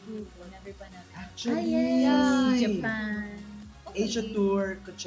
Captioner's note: gasps